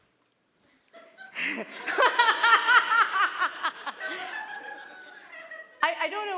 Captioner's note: laughter